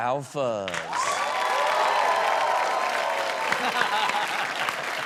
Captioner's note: audience applauds